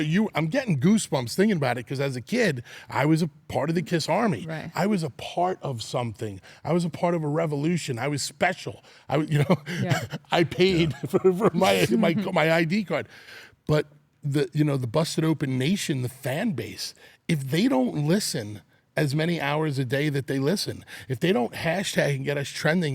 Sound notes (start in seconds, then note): 11.4 laugh